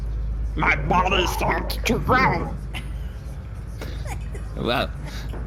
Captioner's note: giggling